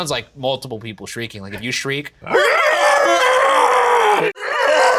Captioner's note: both shriek